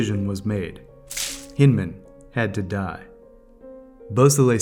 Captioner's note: blood splashes